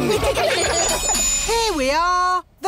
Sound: laughter

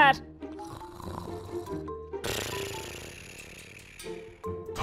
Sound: snoring

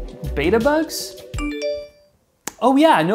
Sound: notification bell dings

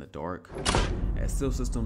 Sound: boom

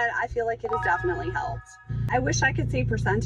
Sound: chime ringing

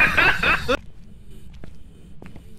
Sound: laughs

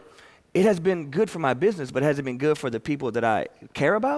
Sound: none

